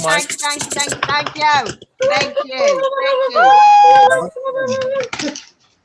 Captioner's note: woman chanting "thank you"